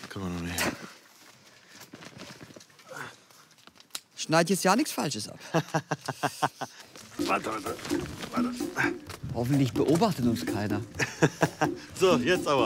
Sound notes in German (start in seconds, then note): 5.4 lacht; 7.1 ächzt; 10.8 lacht